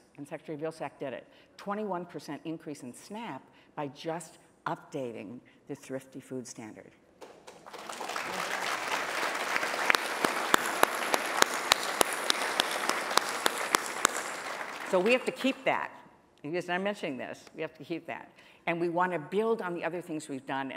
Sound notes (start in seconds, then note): 7.2 applause